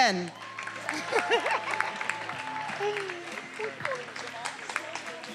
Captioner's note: attendees applauding and cheering; faculty members laughing